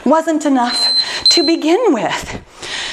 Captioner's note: timer beeping